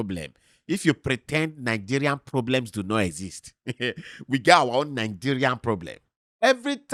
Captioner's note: chuckles